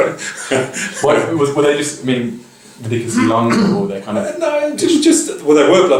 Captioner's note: laughing; cough over speaking